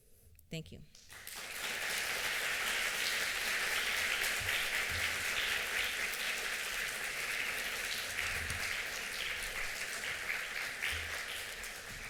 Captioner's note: applause